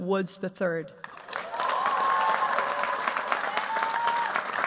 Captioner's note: cheers, applause